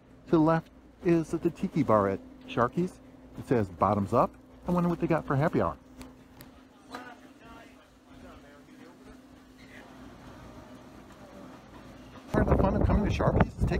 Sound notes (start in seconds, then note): 6.6 crowd chattering